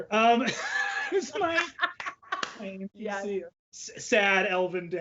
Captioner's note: laughs